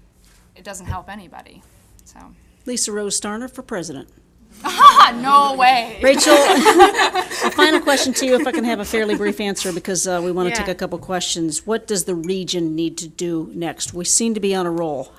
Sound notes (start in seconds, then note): 6.0 laughing; 6.0 audience laughing